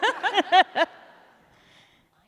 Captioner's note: laughter